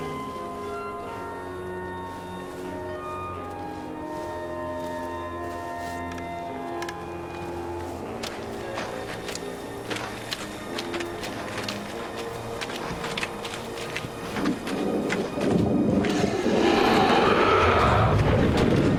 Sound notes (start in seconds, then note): 8.6 footsteps; 16.0 growling; 16.0 roaring